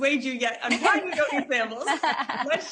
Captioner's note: laughing